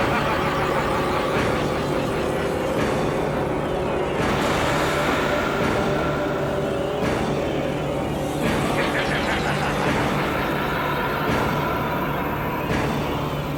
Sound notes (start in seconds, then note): 0.0 whaler laughing; 8.4 whalers continue laughing